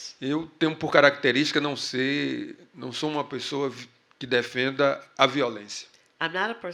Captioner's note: speaking portuguese